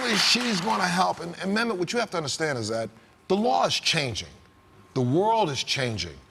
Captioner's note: applause